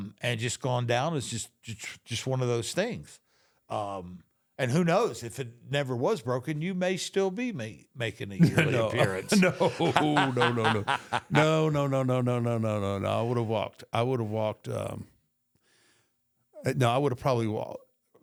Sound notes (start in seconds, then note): 8.4 Michael laughs; 8.4 chuckles